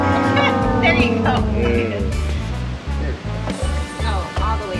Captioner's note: laughs